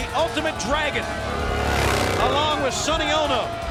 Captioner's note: engine rumbling